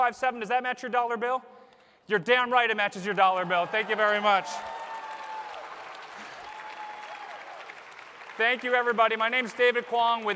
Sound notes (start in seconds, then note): 2.9 applause